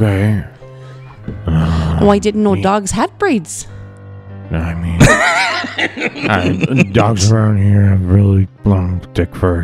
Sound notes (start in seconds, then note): 3.5 laughs